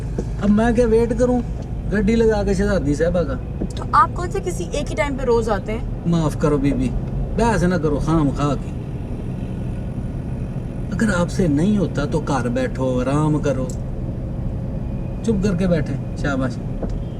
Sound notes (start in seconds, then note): none